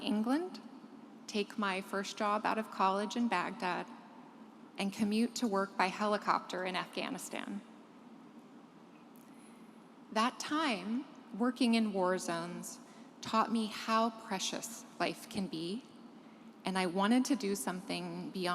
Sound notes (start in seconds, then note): none